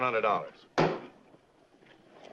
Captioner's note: gavel bangs